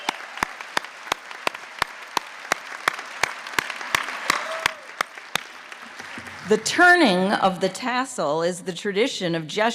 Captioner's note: applause